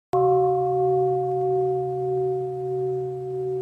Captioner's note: bell